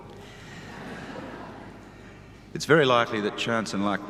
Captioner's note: audience laughs